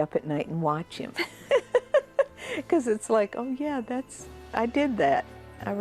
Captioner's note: laughs